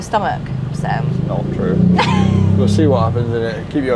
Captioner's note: laughing